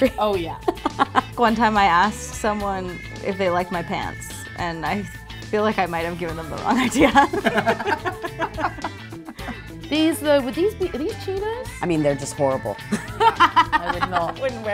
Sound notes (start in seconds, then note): 6.6 laughs; 12.8 laughs